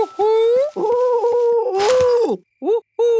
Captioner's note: cooing